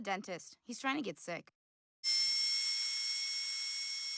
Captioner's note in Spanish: zumbidos de la herramienta